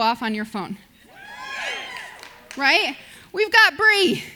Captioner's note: audience cheers